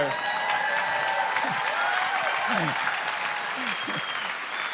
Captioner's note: cheering and applause